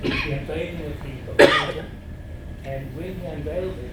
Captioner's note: audience member coughing